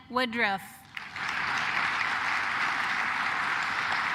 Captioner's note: claps